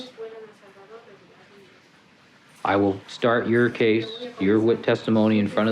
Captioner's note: translator speaking Spanish